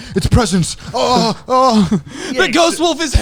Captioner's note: yelling